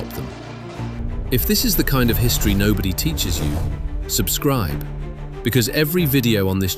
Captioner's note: thoughtful